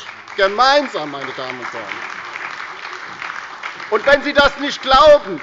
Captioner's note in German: Beifall bei der LINKEN, der SPD und bei Abgeordneten der FDP